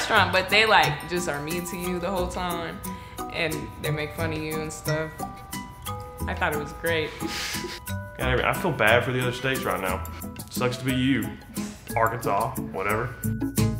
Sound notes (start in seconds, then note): 7.9 giggles